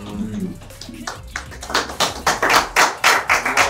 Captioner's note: claps